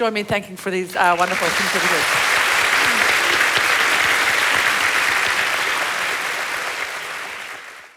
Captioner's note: applause